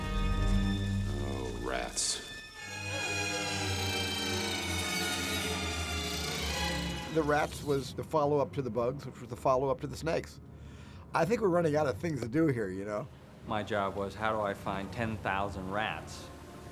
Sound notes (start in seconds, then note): 3.5 squeaking and chittering